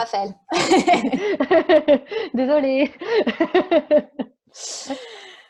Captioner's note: laughs